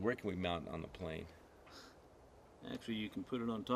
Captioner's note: none